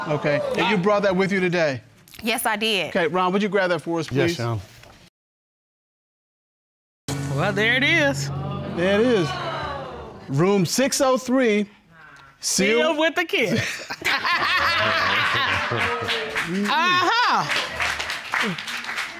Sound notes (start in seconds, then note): 13.5 judge laughs; 13.6 all laughing; 17.4 applause